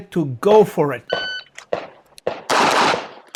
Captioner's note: machine beeping; gunshots banging